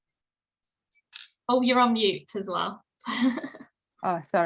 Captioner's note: laughs